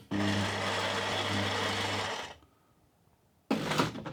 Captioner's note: coffee grinding